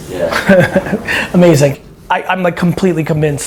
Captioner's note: laughs